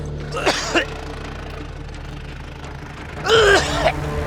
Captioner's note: dry heaves